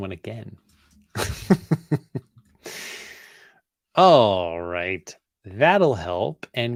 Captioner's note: laughs